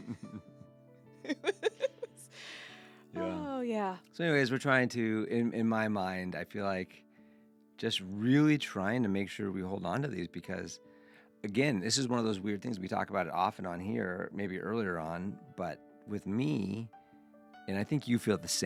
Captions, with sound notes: (both laughing) Oh yeah. So anyways, we're trying to, in my mind, I feel like just really trying to make sure we hold onto these because again, this is one of those weird things. We talk about it off and on here, maybe earlier on, but with me, and I think you feel the